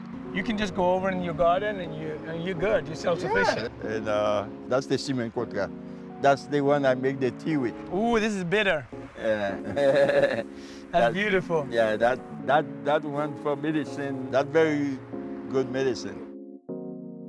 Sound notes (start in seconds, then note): 9.3 laughs; 10.5 sniffs